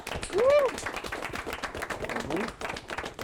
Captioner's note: group clapping